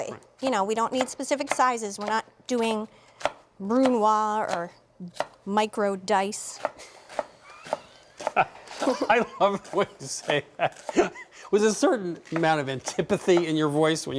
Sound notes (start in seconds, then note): 8.2 laughing